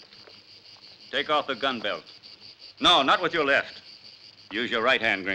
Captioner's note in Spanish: none